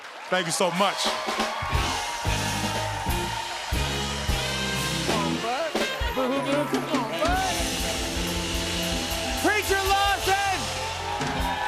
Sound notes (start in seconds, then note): 1.5 cheers and applause